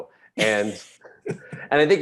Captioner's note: Desi and Eric laughing